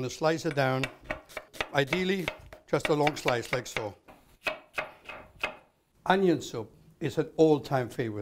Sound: chopping

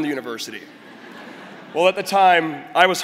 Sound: crowd laughing

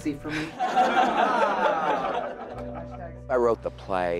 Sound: laughing

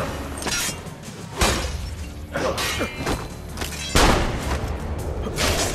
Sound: fighting sounds

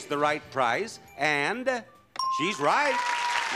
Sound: bell ringing

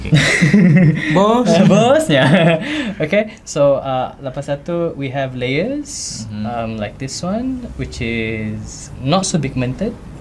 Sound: laughs

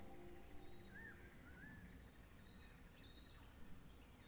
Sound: birds chirp

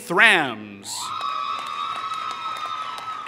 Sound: applause

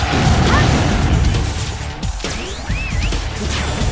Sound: lightning sound mouth interpretation

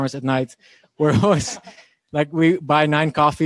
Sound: laughing

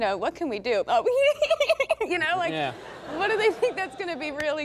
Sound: laughing

